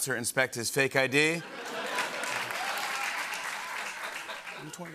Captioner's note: laughter and applause